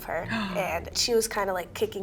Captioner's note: gasps